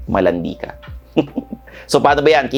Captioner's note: chuckles